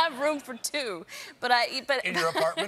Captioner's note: laughter